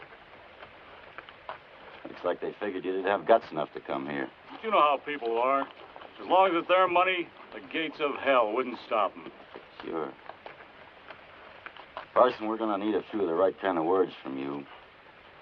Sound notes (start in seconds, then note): none